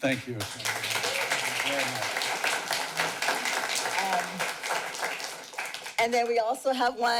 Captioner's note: clapping